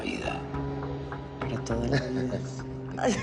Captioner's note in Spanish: Risas